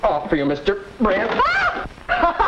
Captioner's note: startled yelp; laughter